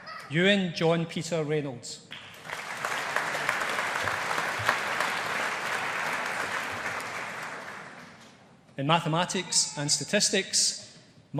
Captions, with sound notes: Euan John Peter Reynolds. (AUDIENCE APPLAUDING) In Mathematics and Statistics,